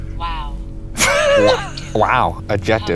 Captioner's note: laughing